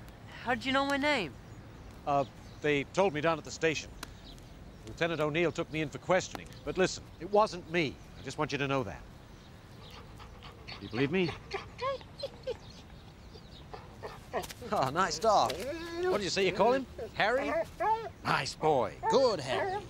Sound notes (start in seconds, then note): none